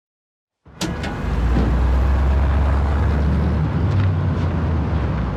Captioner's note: street noise